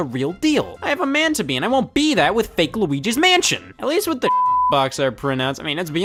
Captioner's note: beep